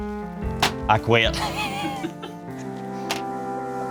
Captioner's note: laughs